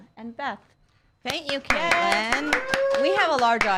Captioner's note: audience applause